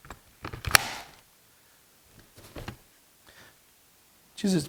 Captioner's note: part clicks into place